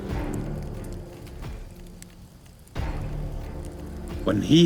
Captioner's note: dramatic music; fire crackling